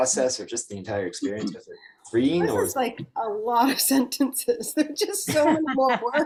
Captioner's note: laughs